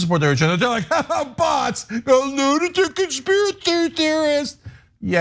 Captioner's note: laugh